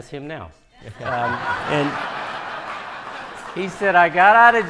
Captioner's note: audience laughing